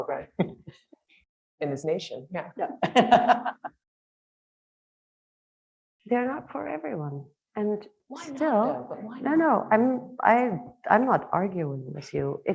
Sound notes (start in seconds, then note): 2.8 laughing